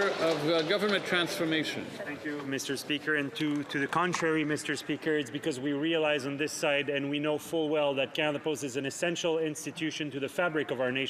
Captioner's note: some Applause